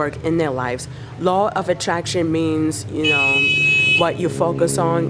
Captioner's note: loud car horn